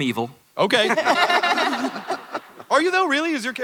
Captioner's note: laughter